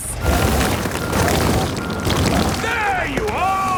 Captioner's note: rock crumbling